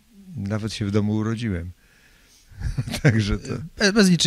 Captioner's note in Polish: śmiech